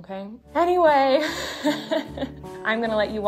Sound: laughs

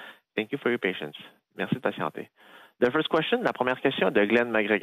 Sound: speaking French

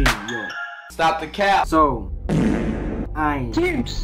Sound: faRt SoUnD

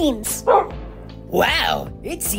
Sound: barks

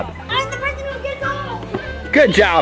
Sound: yelling

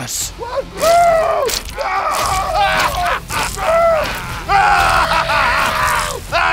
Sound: screaming

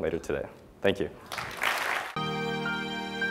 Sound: applause

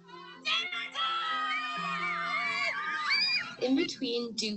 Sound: kids yelling

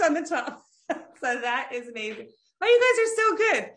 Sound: laughs

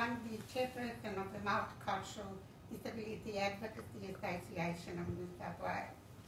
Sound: foreign language

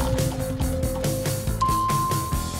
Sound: dinging

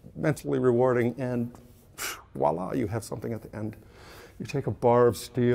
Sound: exhales

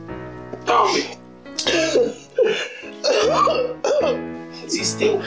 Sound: sobbing

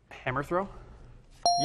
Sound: ding

